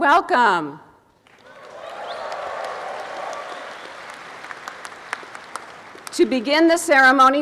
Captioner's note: applause and cheering